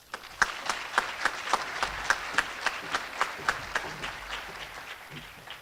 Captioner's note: appaluse